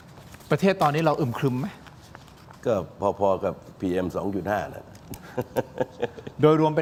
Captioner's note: laughter